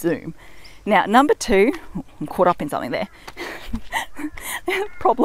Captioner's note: laughs